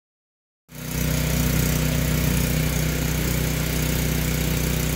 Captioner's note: engine running